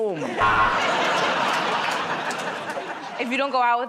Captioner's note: buzzer